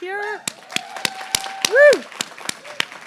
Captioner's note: applause